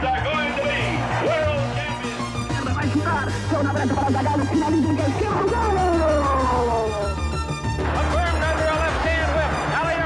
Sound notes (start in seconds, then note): 2.9 soccer announcer shouting in Spanish; 6.3 dramatic music continues